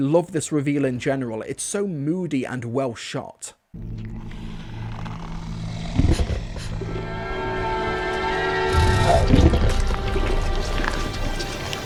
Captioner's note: munching, squelching noises